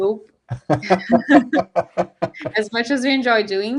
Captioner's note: laughing